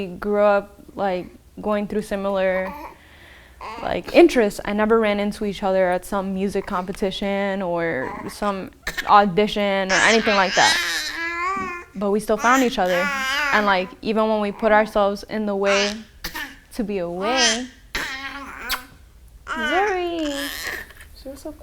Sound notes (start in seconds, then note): 15.6 baby cooing; 18.6 lips smacking